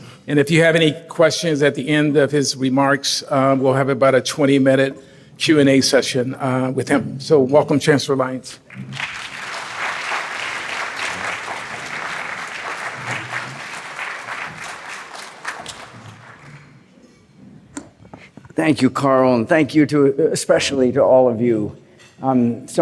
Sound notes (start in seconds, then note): 8.6 applause